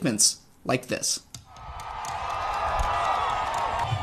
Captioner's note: cheering